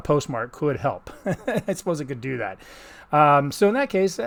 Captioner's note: chuckling